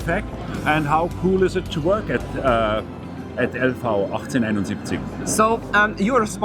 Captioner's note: speaking german